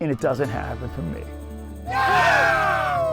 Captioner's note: guys cheer